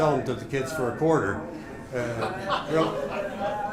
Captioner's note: laughter